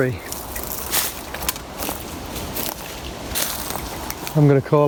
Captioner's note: leaves rustling